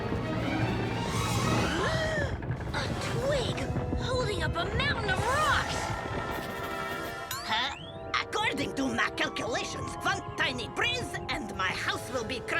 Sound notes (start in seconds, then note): 0.2 suspenseful orchestral music; 0.8 Milo gasps